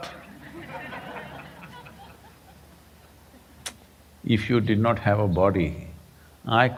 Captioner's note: laughter